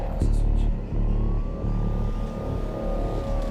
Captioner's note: sirens wailing